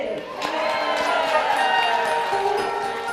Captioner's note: applause